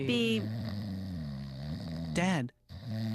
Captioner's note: snoring